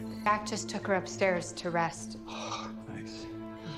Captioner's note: sighs